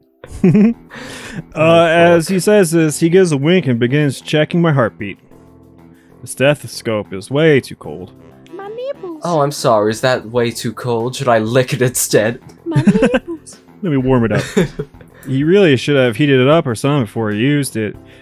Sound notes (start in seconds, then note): 0.3 giggles; 12.6 laughs; 14.2 giggles